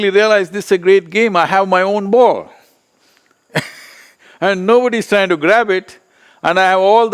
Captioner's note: laughs